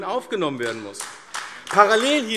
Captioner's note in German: Beifall AfD